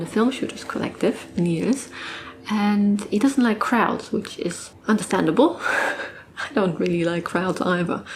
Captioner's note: laughs